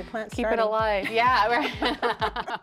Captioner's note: laughter